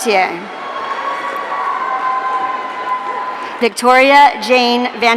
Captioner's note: audience cheering